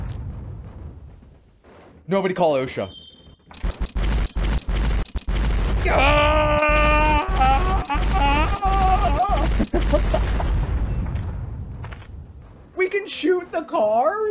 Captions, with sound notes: Nobody call OSHA. [gunfire] [screaming] We can shoot the cars?